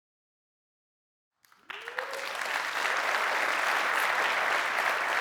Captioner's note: cheering, applause